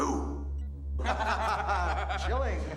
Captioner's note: laughter